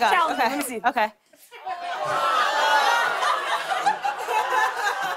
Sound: laughter

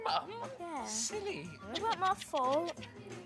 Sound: cutting noises

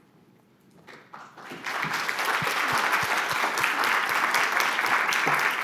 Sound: audience applauding

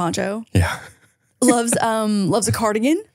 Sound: chuckles

